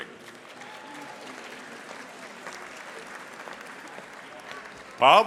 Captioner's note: audience applauding